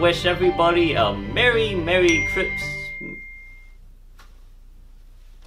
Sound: inturrupted by ding

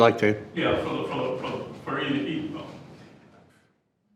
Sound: speaking faintly

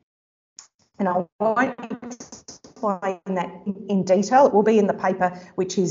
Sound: audio dips

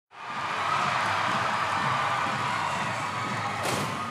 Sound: loud applause & cheering

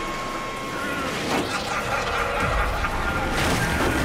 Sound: evil laughing

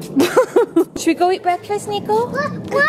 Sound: laughing

